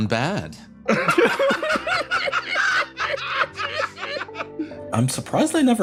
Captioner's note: laughs